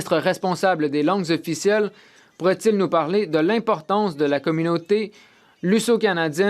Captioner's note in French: voix de l'interprète